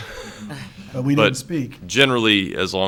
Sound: all chuckles

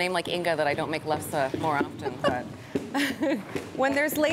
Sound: laughing

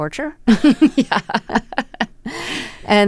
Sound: laughter

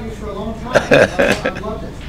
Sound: laugh

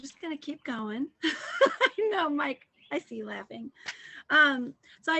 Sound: laughter

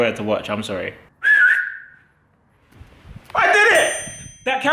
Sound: whistles

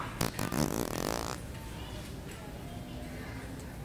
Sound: farting noise

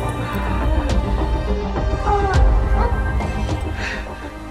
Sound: moans

